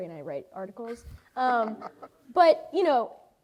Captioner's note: laughs